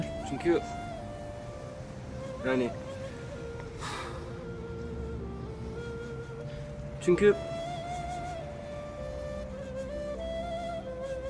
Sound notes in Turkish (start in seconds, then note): 3.8 Nefes sesi; 4.7 Müzik - Duygusal; 8.2 Müzik - Duygusal